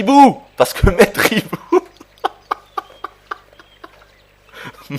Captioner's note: laughs